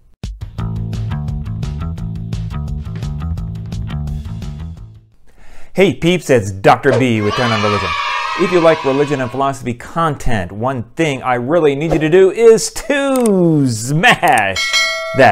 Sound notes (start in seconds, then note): 6.9 kids cheering